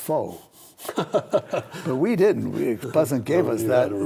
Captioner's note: laughs